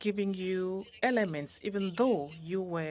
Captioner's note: speaking French